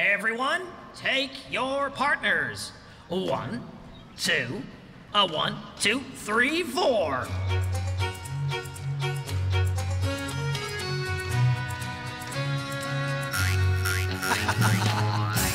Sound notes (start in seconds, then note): 7.3 country Music; 13.3 boing! Boing! Boing!; 14.0 chuckling